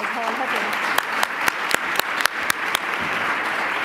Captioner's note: applause